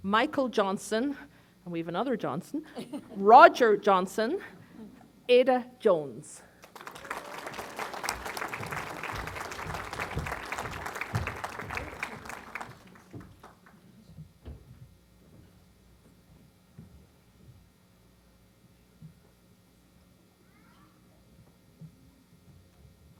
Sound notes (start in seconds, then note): 2.6 laughter; 6.6 applause